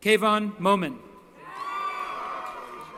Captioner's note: cheering